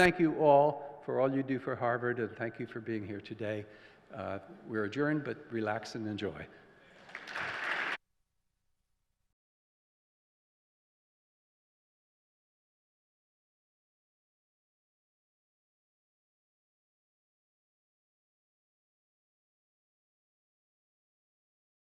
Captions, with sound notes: Thank you all for all you do for Harvard, and thank you for being here today. We're adjourned, but relax and enjoy. [APPLAUSE]